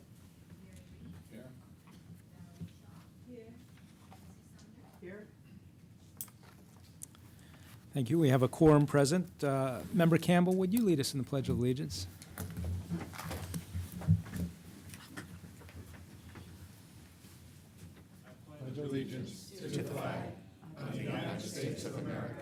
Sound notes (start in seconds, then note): 6.7 off mic